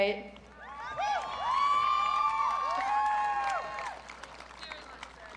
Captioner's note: audience cheering